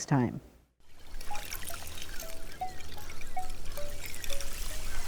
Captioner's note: waves lapping